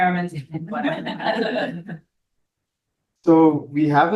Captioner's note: all laugh